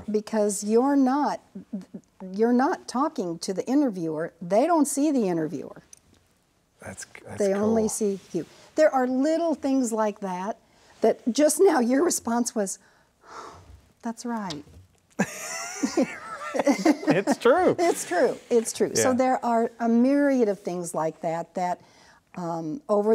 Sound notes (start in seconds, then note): 14.7 sighs; 15.2 both laugh